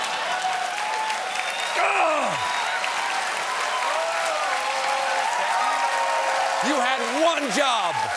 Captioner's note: cheers and applause